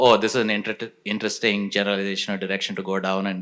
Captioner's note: none